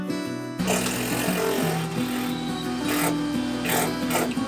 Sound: drilling

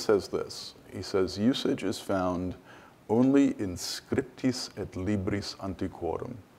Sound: speaks foreign language

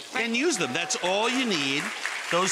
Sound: audience clapping

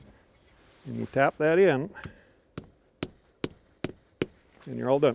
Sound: wood thudding

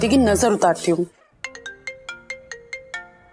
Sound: phone ringing

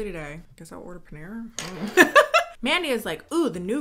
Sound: laughing

